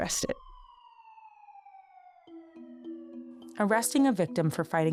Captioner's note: sirens wailing